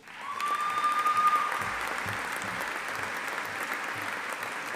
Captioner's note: audience applauding